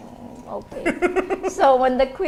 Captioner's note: laughs